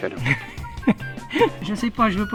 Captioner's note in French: Rires